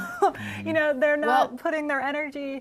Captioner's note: giggled laughter